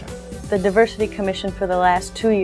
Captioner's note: voiceover